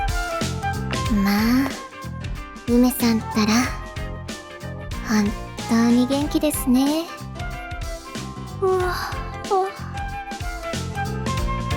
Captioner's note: yawn~